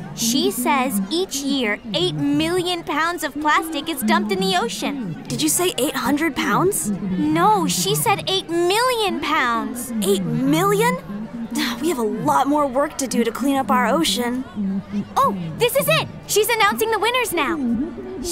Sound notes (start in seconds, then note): 11.5 sighs